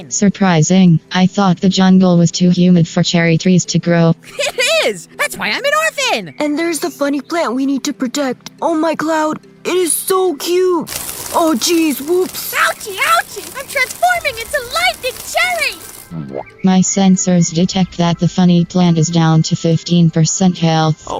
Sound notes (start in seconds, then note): 11.3 zap